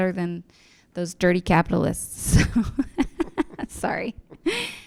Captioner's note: laughs